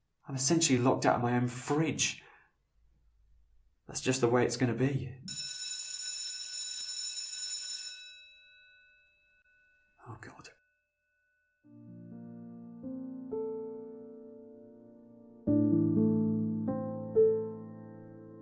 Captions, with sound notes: I'm essentially locked out of my own fridge That's just the way it's gonna be (Bell rings) Oh God.